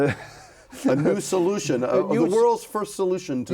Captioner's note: laughs